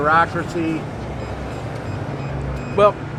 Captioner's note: alert beeping